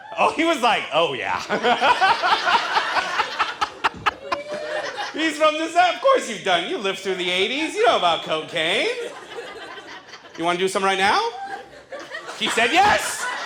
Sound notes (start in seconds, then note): 1.2 audience laughs; 1.2 laughs; 8.6 audience laughs